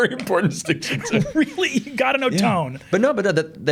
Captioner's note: chuckling